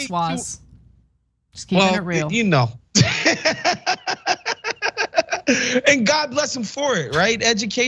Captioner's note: laugh